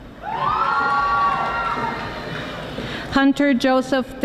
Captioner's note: audience applauding